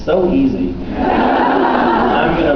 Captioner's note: laughs